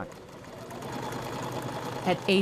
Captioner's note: sewing machine whirring